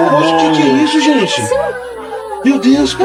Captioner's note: portuguese dialogue continues